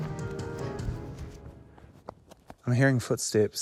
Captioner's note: music stops, footsteps patter